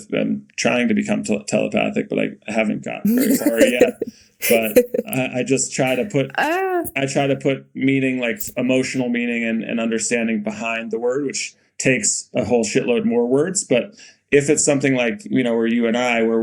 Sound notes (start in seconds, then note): 3.0 Mikaela laughing